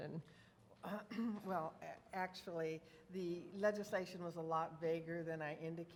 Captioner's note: clears throat